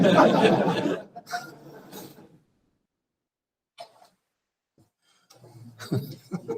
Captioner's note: laughter